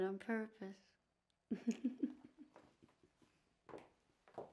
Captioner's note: laughs